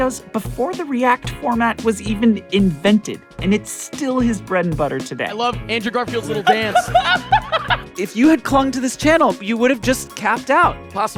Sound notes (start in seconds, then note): 6.3 person laughing